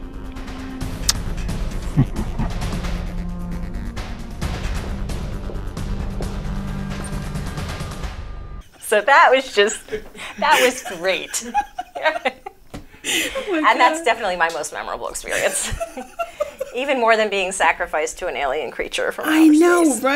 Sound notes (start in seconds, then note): 1.0 kissing sound; 1.8 evil laugh; 12.0 laughing